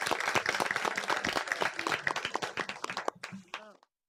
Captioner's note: applause